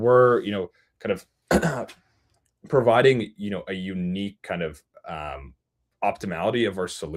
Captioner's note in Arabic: يُصفّي حلقه